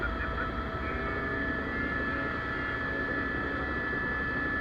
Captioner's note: helicopter